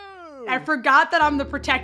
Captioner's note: laughs